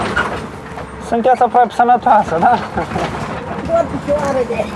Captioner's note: laughs